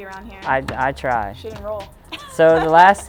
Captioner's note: laughs